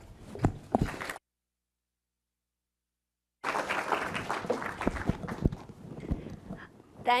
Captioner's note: applause